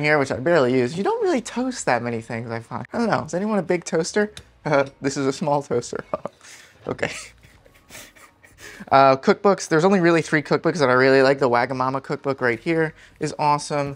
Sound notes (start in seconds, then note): 7.1 chuckles